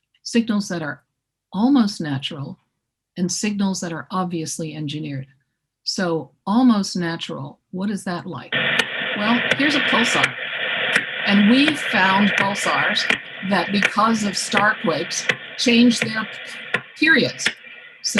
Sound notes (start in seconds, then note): 9.1 soft ticking; 10.3 loud buzzing sound